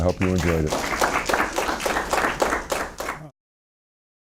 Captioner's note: applause